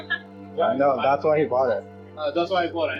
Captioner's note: laughs